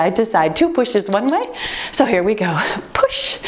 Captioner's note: timer beeps